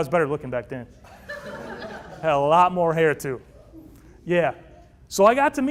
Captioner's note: laughter